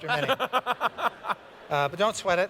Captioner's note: laughter